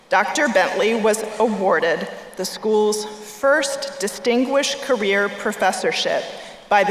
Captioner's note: none